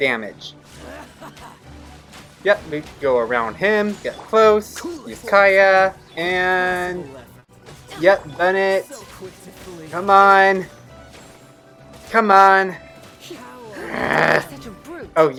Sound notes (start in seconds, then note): 10.2 gamer sounds grunting